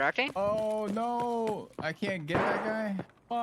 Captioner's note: humming from chat